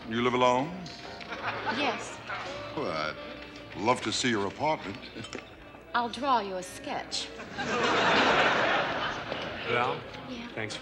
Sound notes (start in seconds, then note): 5.2 chuckles; 7.4 audience laughs